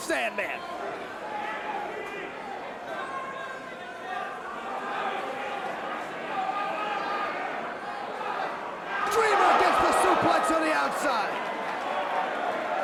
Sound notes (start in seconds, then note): 2.7 crowd chatter